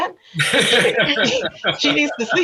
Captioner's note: all laugh